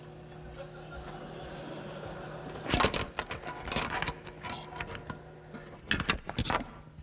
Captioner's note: laughter